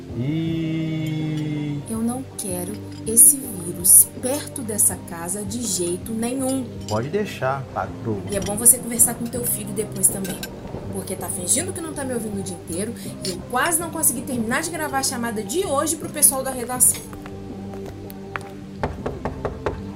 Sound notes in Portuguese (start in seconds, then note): 6.8 FERNANDO - Sarcástico